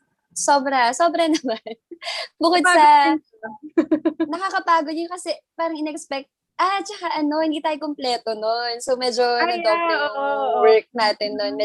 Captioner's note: laugh